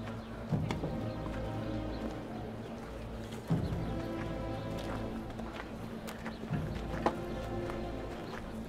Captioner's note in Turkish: Kuş cıvıltısı sesleri; Ayak sesleri